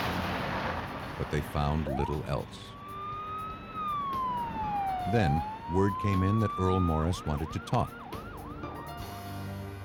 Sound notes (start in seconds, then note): 1.6 police siren